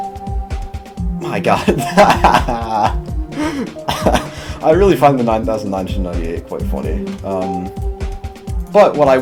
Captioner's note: laughter